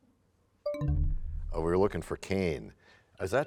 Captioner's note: bell chimes, time expires